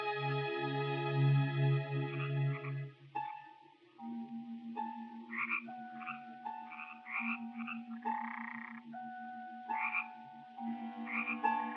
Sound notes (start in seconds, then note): 2.6 eerie orchestral music; 4.9 frogs croaking